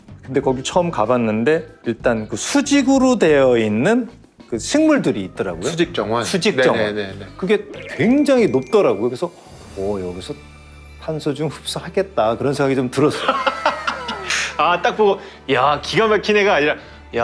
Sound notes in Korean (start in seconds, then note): 9.7 웅장한 음악; 13.1 웃음